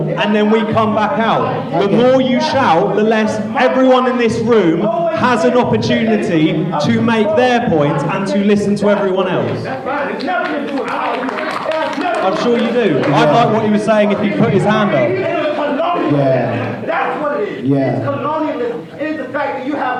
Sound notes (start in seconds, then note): 3.0 shouting; 10.0 applause; 10.8 shouting; 16.6 shouting; 18.9 shouting